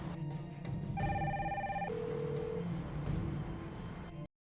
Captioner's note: phone ringing